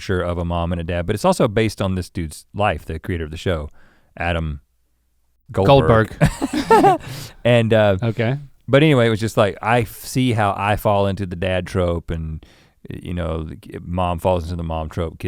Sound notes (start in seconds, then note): 5.7 chuckling